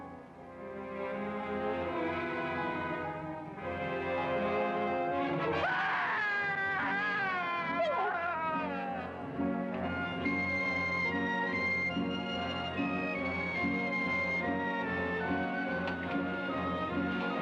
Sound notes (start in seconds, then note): 5.5 man screaming; 9.8 dramatic music